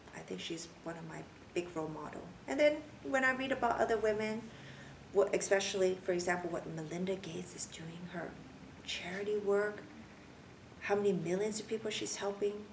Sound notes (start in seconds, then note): none